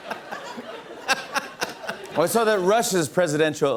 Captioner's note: laughter and applause; normal voice